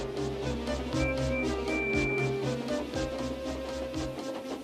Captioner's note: Percy whistles